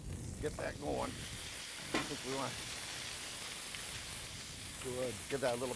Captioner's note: food sizzling